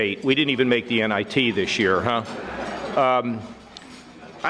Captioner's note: audience laughing